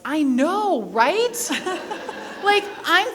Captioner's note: people laughing